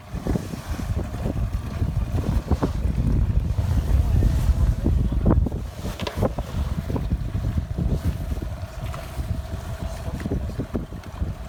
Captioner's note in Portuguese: vento